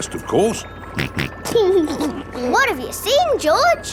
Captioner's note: snorts and laughs